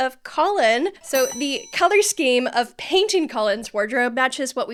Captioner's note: bell ringing